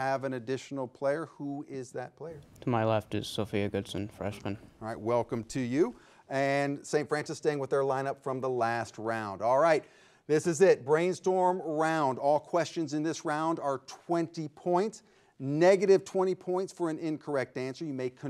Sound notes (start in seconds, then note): none